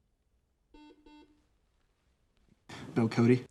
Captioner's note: buzzer sounds